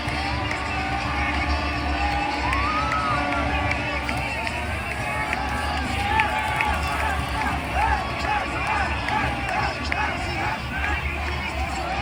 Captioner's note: cheering and screaming